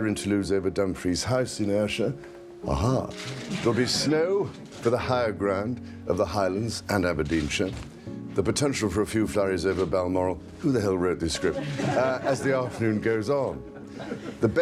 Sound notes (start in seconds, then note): 11.3 laughter